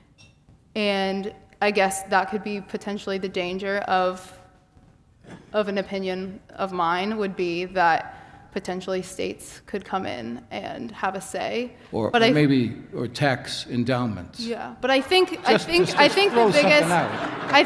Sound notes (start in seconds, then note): 15.3 laughs